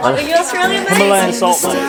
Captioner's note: laughing